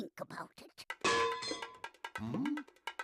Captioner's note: clanging